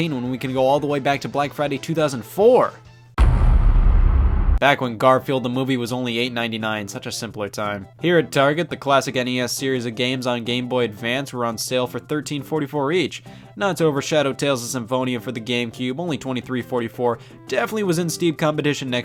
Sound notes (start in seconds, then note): 3.2 heavy thud